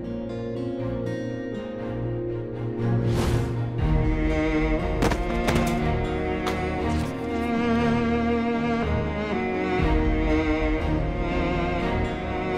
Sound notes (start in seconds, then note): 0.1 tense music; 5.0 falling